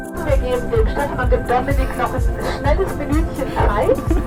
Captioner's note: cabin announcement